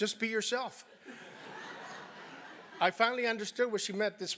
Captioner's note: laugh